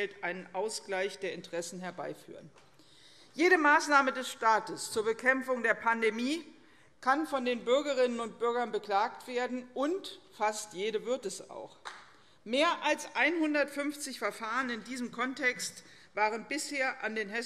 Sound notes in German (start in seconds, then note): none